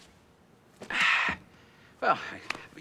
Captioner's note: sighs